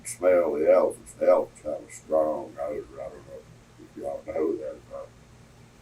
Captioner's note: laughs